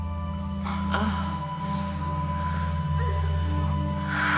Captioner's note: erotic moaning